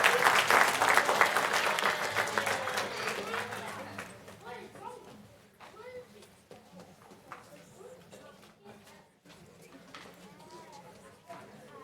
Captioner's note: applause